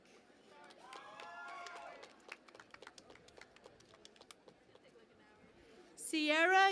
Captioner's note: cheering and Applause